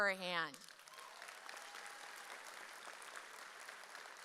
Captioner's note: audience applauds